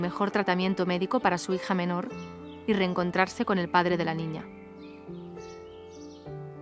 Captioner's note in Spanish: música agradable; sonido de pájaros